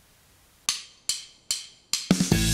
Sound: ruler tapping; upbeat music

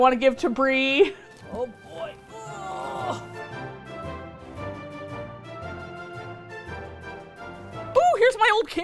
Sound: straining

